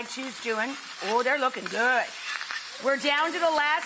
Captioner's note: burgers sizzle in pan